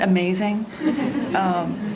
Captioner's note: laughter